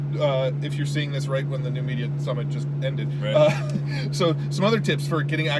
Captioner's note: laughs